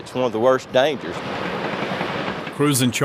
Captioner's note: construction vehicles rumbling